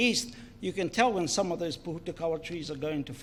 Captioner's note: foreign Language